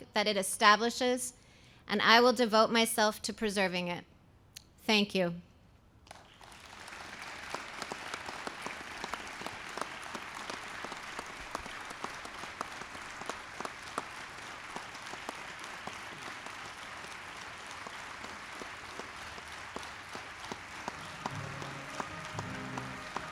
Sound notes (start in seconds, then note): 6.8 applause